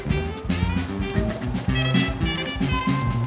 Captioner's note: applause